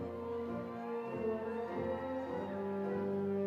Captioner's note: crowd cheers